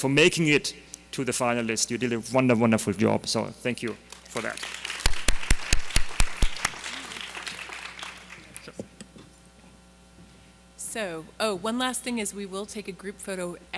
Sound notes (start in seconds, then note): 4.1 audience applauding